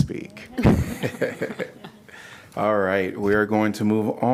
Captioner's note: laughter